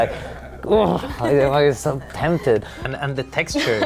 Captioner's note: Felicity laughing in bemusement